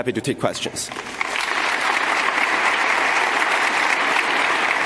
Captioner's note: audience applauding